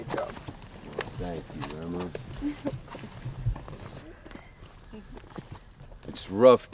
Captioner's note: se ríe entre dientes